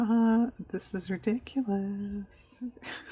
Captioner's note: laughs